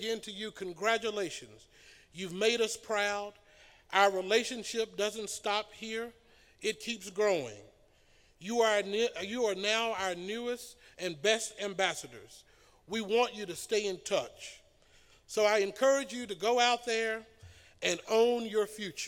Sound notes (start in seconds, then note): none